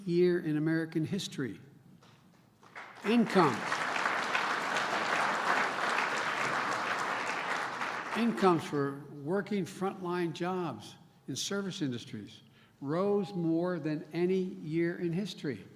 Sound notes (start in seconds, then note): 2.6 applause